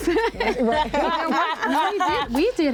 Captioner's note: laughter